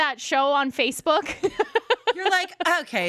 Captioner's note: laughs